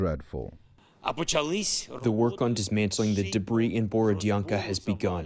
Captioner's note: through translator